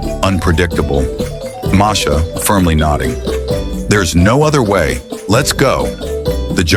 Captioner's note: nodding firmly, serious tone